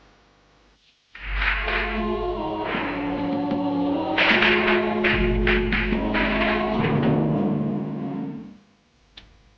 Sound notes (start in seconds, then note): 1.1 reverent music; 1.1 fireworks popping; 6.9 tense music